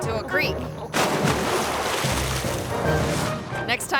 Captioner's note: water splashing